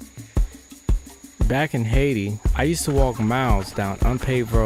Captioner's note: upbeat music; male Voice